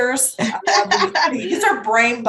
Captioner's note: laughs